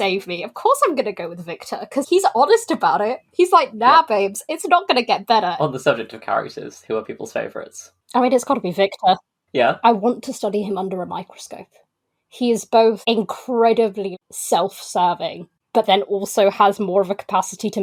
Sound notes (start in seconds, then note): none